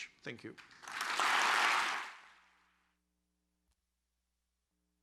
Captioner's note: audience applauds